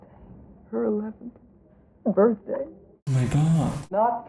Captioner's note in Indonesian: Tersedak